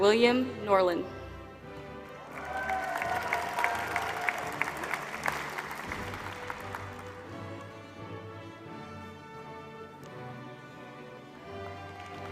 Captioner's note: applause